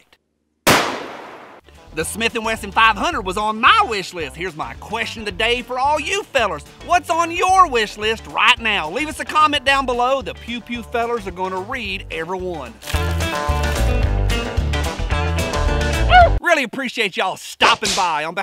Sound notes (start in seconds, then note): 0.6 gun fires; 12.9 upbeat country music; 16.0 yelps